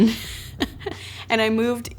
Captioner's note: laughs